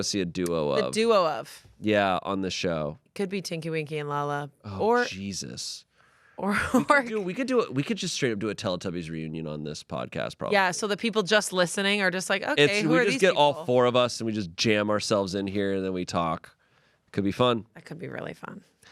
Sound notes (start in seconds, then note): 6.6 laughs